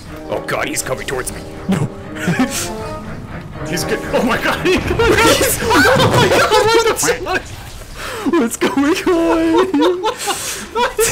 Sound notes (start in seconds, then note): 2.9 laughs; 4.8 pain and death noises